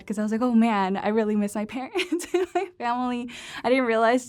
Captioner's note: laughter